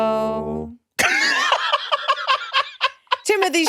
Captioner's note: laughs